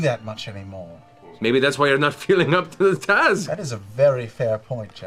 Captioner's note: laughs